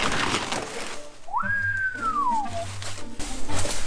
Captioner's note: whisle